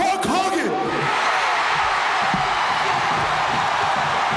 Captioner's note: audience cheering